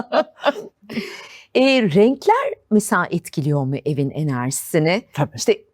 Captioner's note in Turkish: kahkaha